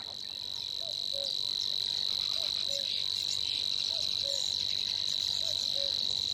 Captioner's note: birds chirping; cuckoo croaking